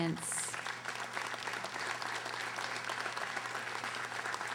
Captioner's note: audience applauding